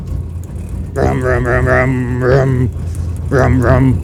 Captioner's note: mumbling